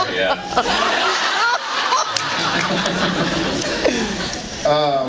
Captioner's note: laughs